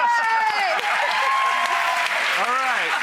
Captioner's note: applause